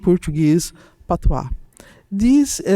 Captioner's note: speaking in Portuguese